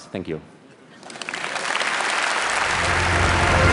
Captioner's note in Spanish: Aplausos